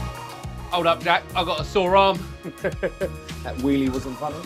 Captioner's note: laughs